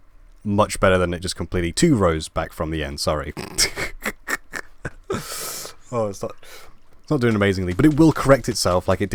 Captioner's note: laugh